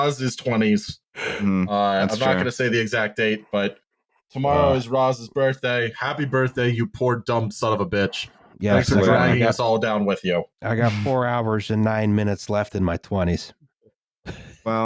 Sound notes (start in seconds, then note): 1.2 tiny yawn